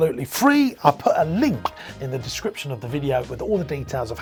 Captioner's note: popping